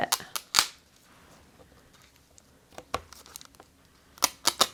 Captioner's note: plastic pulling open